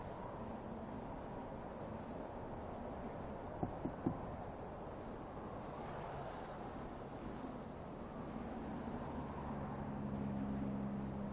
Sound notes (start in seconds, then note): 3.6 knocking on window